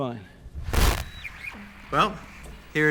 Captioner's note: static